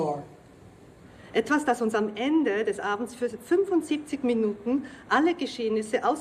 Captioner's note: speaking German